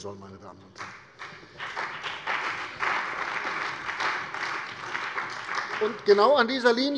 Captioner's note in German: Beifall bei der CDU und dem BÜNDNIS 90/DIE GRÜNEN